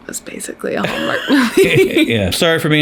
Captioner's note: both laugh